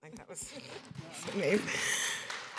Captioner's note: applause